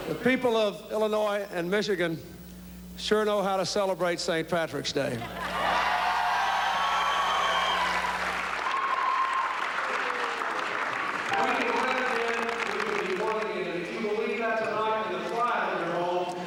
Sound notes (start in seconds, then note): 5.4 cheering